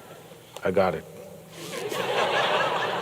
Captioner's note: laughter